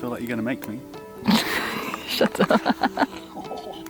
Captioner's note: laughing